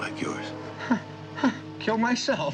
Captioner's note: scoffs